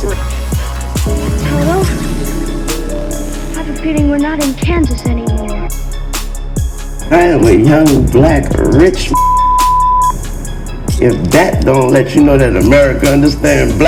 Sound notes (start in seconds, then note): 0.2 upbeat music; 5.7 upbeat music; 9.0 beeps